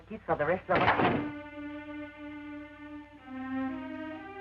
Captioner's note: door slams